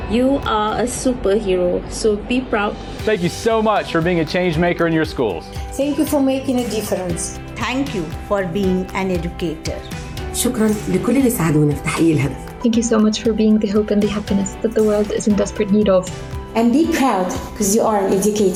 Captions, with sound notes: - You are a superhero, so be proud. - Thank you so much for being a change-maker in your schools. - Thank you for making a difference. - Thank you for being an educator. (educator speaks in foreign language) - Thank you so much for being the hope and the happiness that the world is in desperate need of. - And the proud because you are an educator.